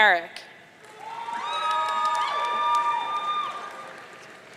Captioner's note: audience cheering